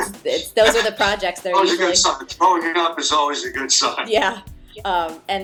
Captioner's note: laughing